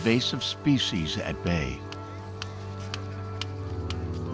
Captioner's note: tapping; chanting in Native language